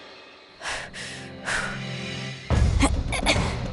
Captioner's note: exhales